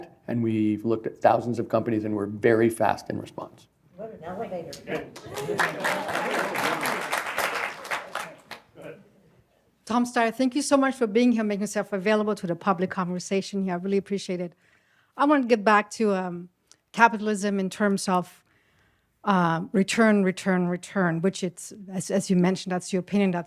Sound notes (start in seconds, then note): 5.1 applause